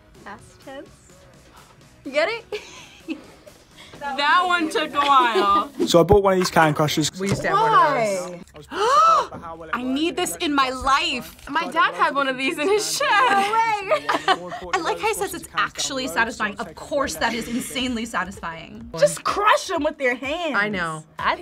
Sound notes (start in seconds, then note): 2.5 laughs; 8.6 gasps; 13.1 laughs